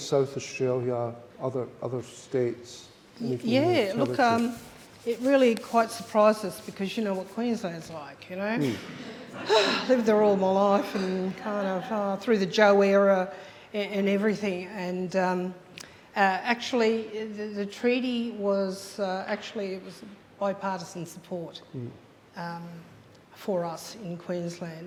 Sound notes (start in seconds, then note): 8.9 audience laughs; 9.8 sighs